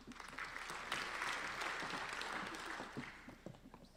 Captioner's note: applauding